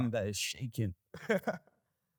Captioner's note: laughter